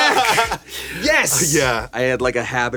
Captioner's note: laughing